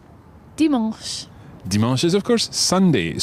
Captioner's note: speaks in foreign language